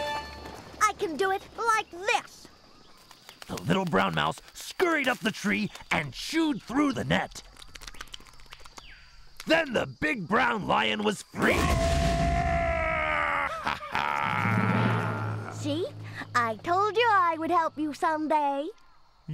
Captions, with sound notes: I CAN DO IT LIKE THIS. ( roars heartily ) SEE, I TOLD YOU I WOULD HELP YOU SOMEDAY.